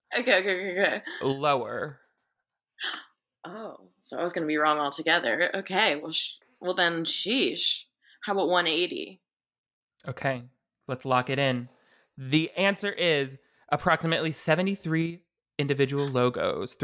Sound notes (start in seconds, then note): 2.9 gasps